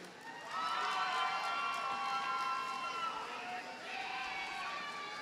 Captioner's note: audience cheers and applauds